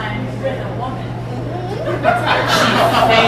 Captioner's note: sound of agreement